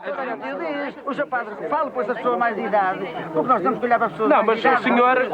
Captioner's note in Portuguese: discussão entre todos